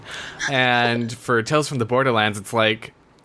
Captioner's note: laughs